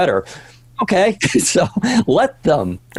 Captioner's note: laughing